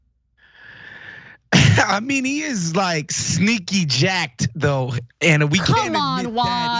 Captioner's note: laugh